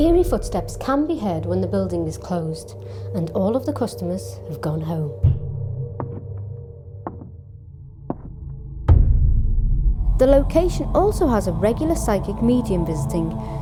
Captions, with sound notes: Eerie footsteps can be heard when the building is closed, and all of the customers have gone home. (footsteps) The location also has a regular psychic medium visiting,